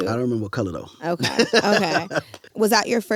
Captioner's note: laughs